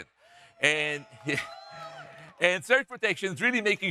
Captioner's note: audience cheering; chuckles